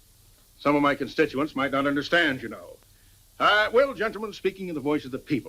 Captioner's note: none